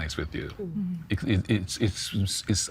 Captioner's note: stammering